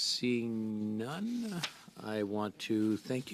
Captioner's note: speaking French